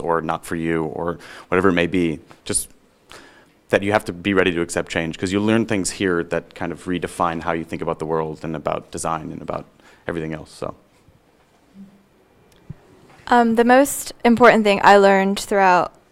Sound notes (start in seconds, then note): none